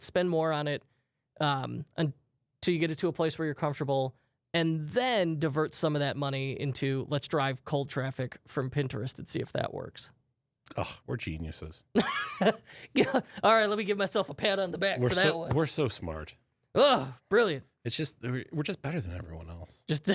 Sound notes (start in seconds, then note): 11.7 laughs